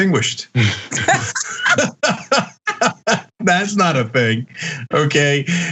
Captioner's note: laugh